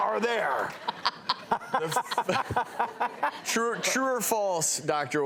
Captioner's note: laughing